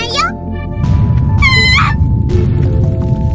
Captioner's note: screams